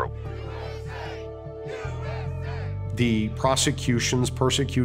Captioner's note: chanting